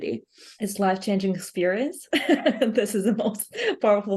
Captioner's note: laughs